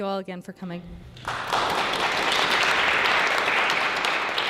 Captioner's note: applause